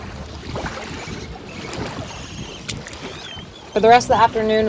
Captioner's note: waves splashing